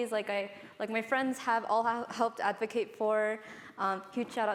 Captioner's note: none